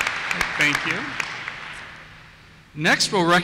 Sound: voiceover

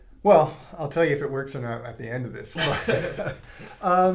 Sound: laugh

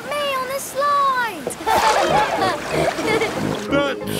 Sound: laughing

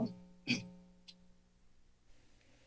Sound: pause; clears throat

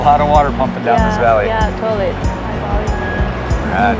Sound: murmurs

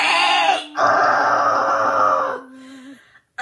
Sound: groans

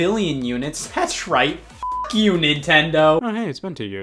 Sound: beep

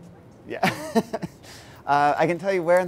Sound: laughs

